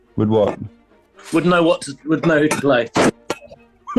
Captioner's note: clattering; laughing